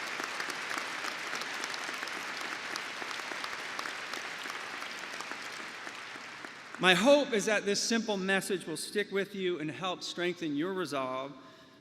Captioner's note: applause